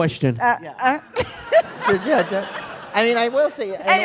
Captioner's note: laughter